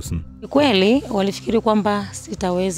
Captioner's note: she speaks her language